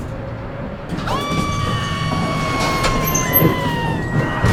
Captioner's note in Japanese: エレベーターが落下する音